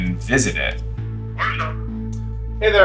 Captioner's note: on phone